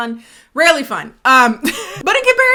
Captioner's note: laughing